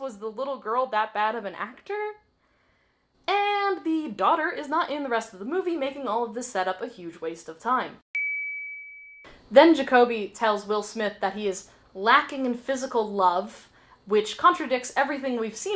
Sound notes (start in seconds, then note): 8.1 ding